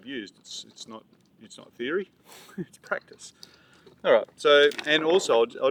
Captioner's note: chuckles